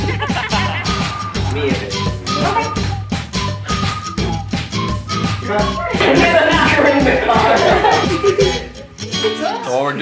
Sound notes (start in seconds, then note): 6.1 laughs; 7.2 giggles